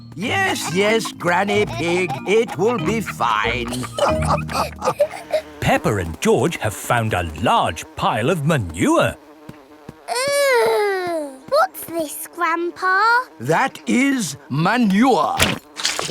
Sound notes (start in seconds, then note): 4.2 all laughing